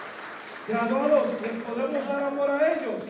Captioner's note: non-english speech